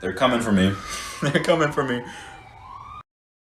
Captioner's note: laughs